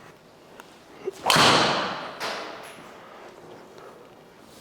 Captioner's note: golf club hits ball